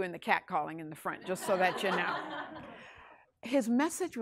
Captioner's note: class laughs